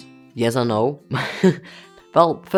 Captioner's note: laughs